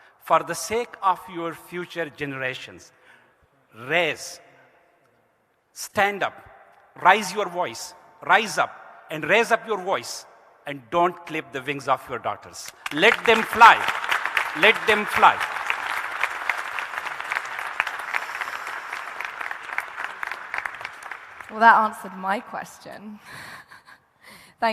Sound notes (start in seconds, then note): 15.8 audience applauding; 24.0 laughs